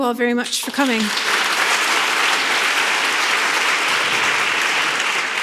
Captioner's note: audience clapping